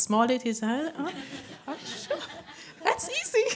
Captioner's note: laughter